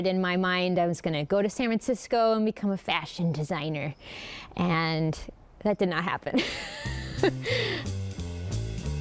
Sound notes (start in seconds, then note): 6.4 laughs